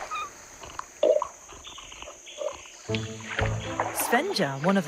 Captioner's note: water rustling; Yutris sipping water